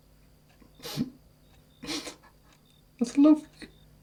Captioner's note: Tommy sniffles